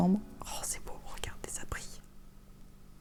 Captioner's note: whispering